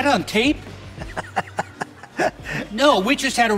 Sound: laughing

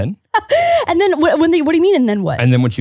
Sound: laughing

